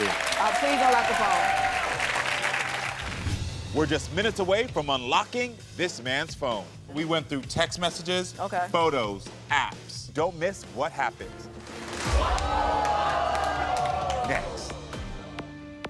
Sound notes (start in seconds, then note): 1.8 audience cheering